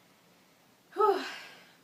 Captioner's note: sighs